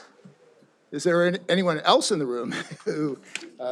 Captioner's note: chuckles